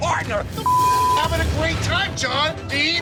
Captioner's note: beep